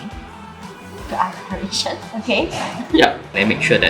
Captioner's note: laughs